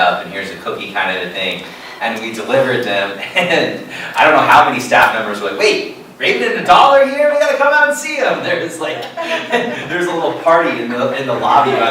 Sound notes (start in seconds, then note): 8.8 laughter